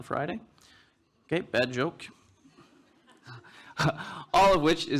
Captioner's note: laughs